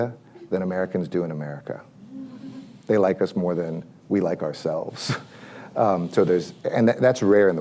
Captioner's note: laughs